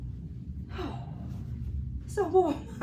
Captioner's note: sighing